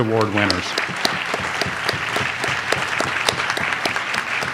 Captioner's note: audience applauds